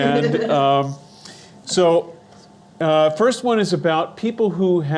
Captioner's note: laughing